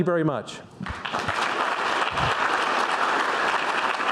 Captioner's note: applause